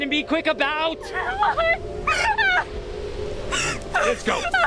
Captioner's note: sobbing